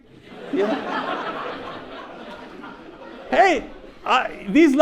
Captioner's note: audience laughs